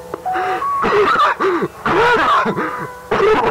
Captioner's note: Felix coughs